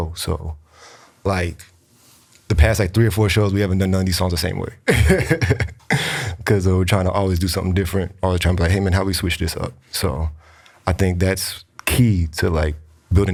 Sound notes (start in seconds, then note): 4.8 laughs